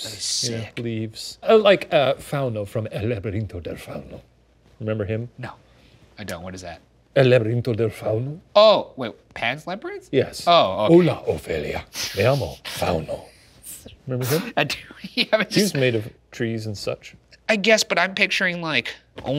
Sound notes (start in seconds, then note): 10.6 speaking Spanish; 12.8 laughing; 12.8 speaking Spanish; 15.0 laughing